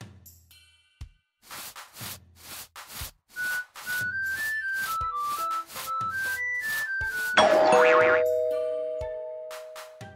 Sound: sweeping broom and whistling

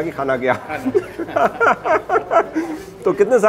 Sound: laughter

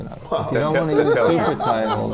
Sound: laughter

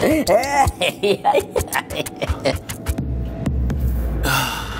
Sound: McKraken laughs; ominous music

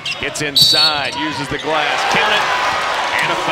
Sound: whistle

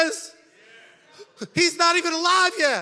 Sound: congregation chattering

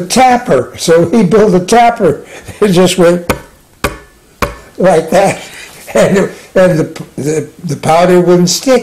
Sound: sound of tapping three times

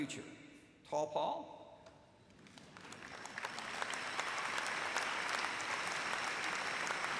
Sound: applause

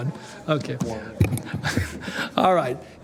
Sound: laughter

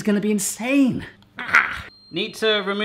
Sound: grunts

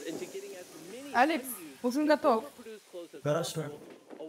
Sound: speaking in Russian

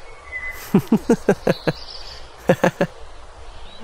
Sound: laughing

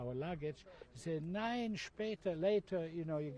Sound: speaking german

